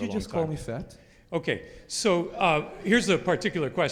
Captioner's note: audience laughs